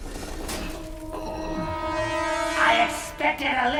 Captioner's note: groans